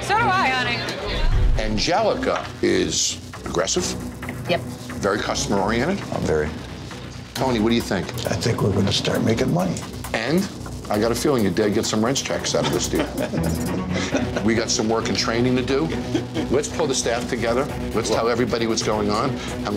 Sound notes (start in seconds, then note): 12.5 chuckling